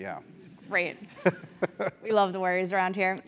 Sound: laugh

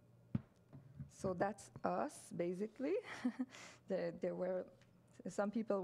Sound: chuckles

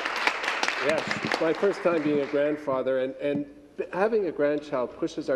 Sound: cheering and Applause

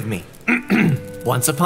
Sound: another ahem

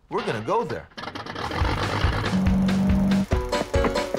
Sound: engine roaring; upbeat music

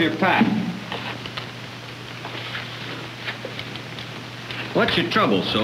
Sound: rustling

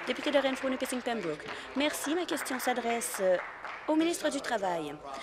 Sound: applause

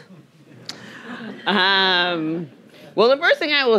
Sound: audience chuckling

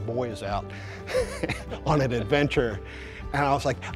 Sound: laughs

